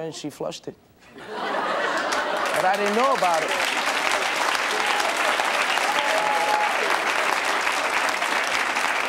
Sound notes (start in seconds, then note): 1.1 audience laughing; 4.5 audience applauding